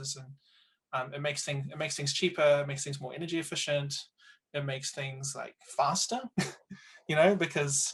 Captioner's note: laughs